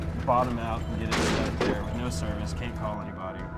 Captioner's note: golf cart crashes